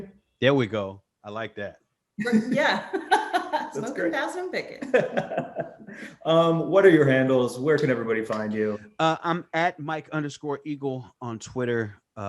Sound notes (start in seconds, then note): 2.2 laugh; 4.8 laughs